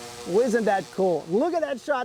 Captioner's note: sound of Drone Flying